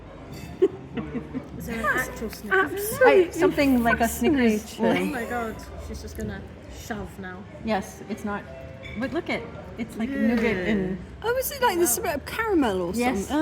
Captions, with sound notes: [chuckling] - Is there an actual Snickers in there? - That's absolutely fascinating. - There's something like a Snickers... - Oh my God, she's just going to shove now. - Yes, it's not- but look at it. It's like nougat and... - Oh, is it like there's a bit of caramel or something?